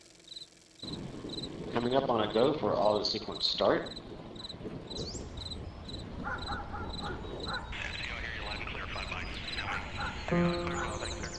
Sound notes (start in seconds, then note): 0.1 birds chirping; 4.8 birds chirping; 6.2 dog barking; 8.2 radio announcing